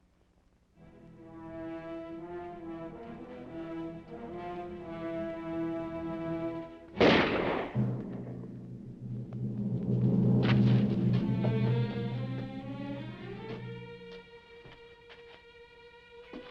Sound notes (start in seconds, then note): 1.2 dramatic music; 6.9 gun firing; 10.1 dramatic music